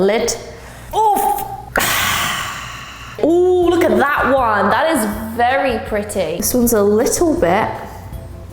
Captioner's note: sighs